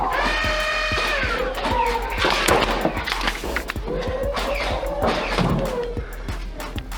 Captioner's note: pained yelp; motors revving and rapid thunking of darts from multiple blasters